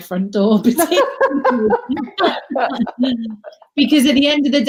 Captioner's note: laughing